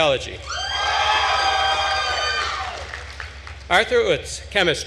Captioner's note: attendees cheering and applauding